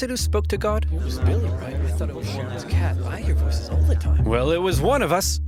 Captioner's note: crowd murmuring